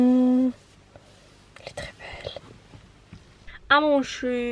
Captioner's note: whispers